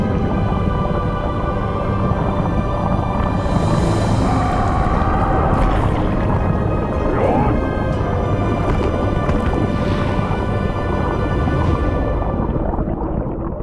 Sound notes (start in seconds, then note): 4.2 screaming; 7.0 grunting